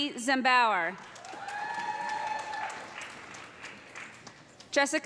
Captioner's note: cheers and applause